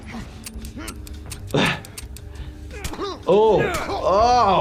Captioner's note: gun shots